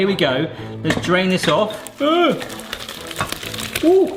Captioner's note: gasps; water sploshes